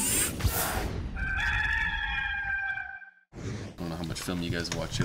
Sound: rooster crowing

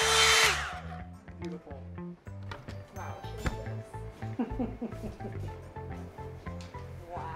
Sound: blow dryer humming; laughs

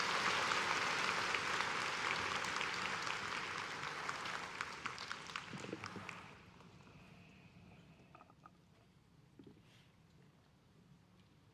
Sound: applause

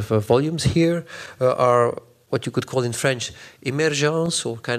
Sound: french

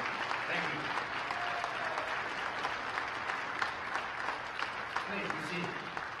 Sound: applause

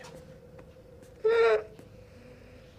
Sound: continues sobbing

